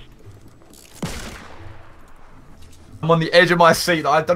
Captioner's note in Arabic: طلقات نارية